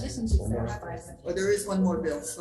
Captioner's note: people talking